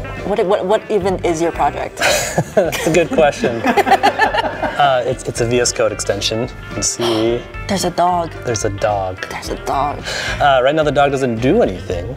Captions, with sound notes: What even is your project? (laughing) Good question. (laughing) It's a VS Code extension. See, there's a dog. There's a dog. There's a dog. Right now the dog doesn't do anything.